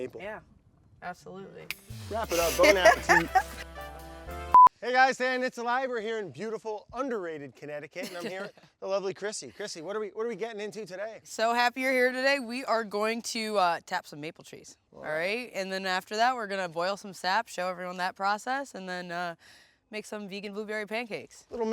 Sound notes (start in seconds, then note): 1.8 soft music; 2.2 laughs; 8.0 laughs